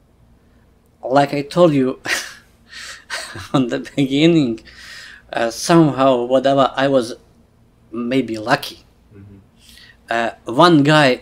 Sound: laughs

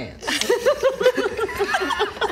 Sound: nervous giggles

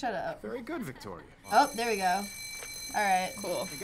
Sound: school bell ringing

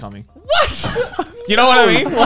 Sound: laughing

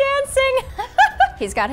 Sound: laughing

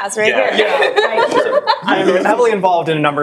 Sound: all laughing

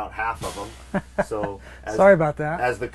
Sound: laughing

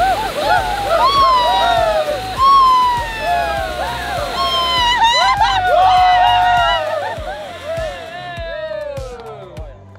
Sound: flashy Crackling sound; shouting with joy

